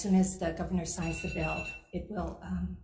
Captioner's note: timer sounds